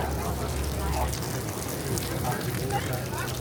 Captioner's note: sound of water falling on boat